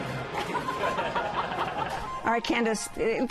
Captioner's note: laughter